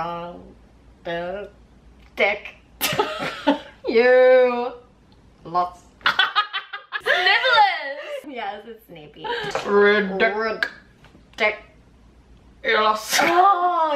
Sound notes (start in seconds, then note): 6.1 more laughing